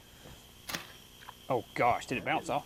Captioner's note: thud